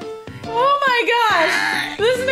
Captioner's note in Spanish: sonidos "normales" de bebe :v